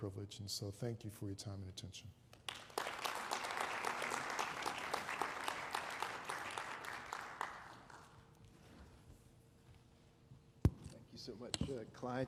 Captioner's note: applause